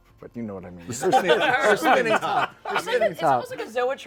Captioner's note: laughter